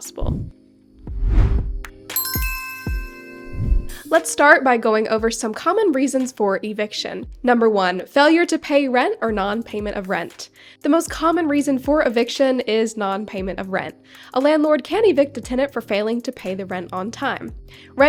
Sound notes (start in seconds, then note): 1.1 air whooshing; 2.1 logo chiming; 3.4 air whooshing